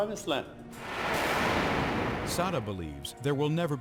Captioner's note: explosion blasts